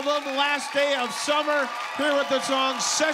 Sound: applause

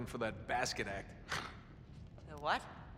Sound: laugh

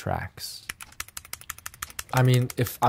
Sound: keyboard clacking

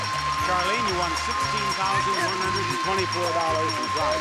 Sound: bell ringing

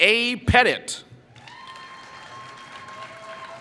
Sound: applause

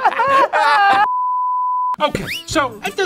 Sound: laughing; screen beeping

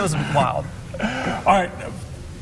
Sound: laughing

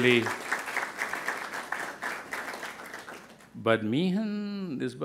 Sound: crowd applauding

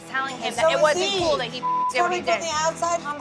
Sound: beep

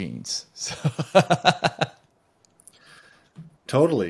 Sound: laughing

